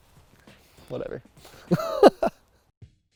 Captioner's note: laughs